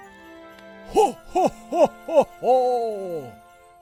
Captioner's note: laughing